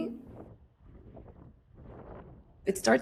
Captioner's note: wind blowing